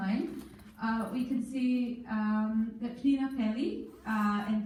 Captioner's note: in foreign language